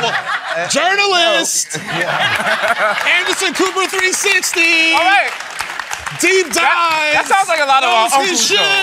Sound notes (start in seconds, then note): 1.6 laughter; 4.1 applause